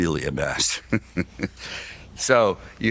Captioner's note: laughs